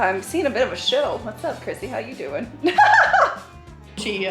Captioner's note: laughs